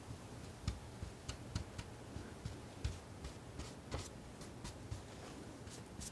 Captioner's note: scratching